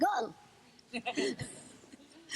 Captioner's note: audience laughter